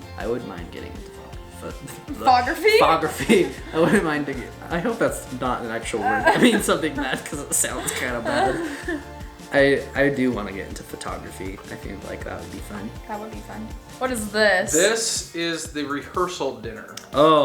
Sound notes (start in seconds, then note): 8.8 laughs; 15.0 male Voice